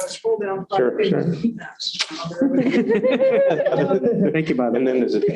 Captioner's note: laughter